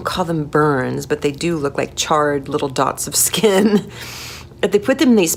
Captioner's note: laughing